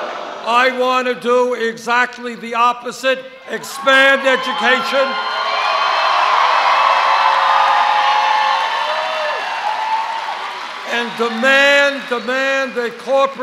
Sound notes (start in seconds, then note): 5.1 cheers; 13.1 cheers